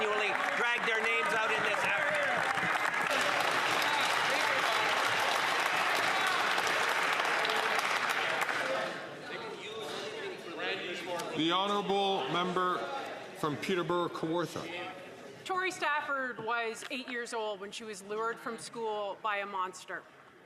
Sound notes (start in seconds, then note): 7.1 some Applause